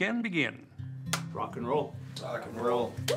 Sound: hands claps

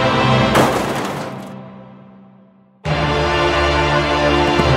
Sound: metal armor crashes

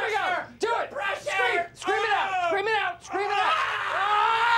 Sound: screaming

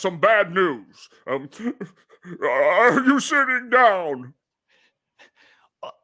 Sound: stifled sob

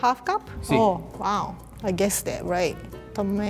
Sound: speaking in foreign language

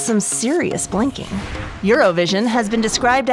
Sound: air whooshing

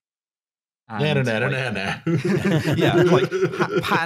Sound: laughs; everyone laughing

